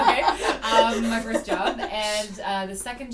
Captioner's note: laughter